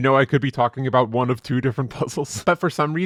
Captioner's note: laughs